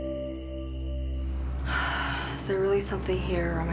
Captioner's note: sighs